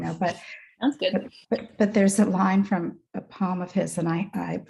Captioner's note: chuckles